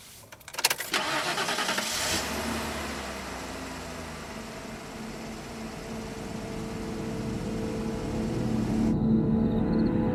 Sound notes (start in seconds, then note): 1.0 car revs; 5.1 dramatic music